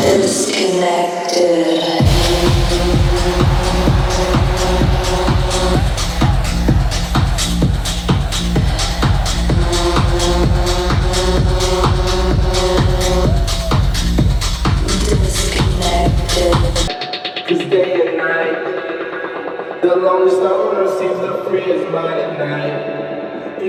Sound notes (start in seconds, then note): 2.4 beat drops; 2.4 crowd cheers